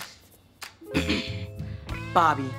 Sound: clearing throat

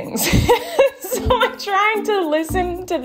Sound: laughs

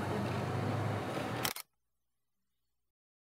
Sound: shutter clicks

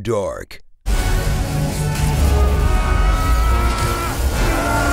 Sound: suspenseful music; screaming; electrical currents fizzing

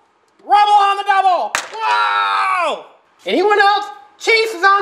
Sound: yells

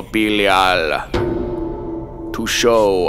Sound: bell tolls

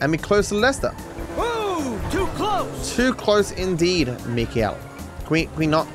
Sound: with an accent

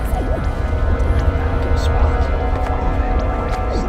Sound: Celtic whispers

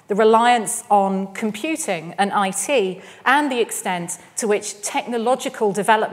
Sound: none

